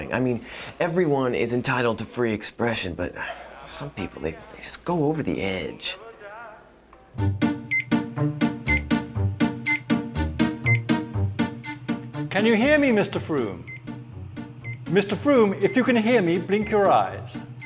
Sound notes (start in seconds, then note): 7.2 dramatic music; 7.2 laboratory machinery beeps